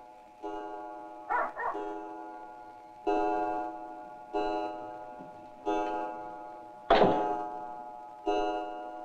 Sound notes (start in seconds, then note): 1.2 dog Barking In Distance